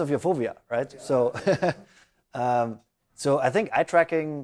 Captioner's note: laughs